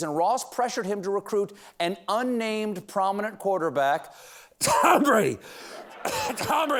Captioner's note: cough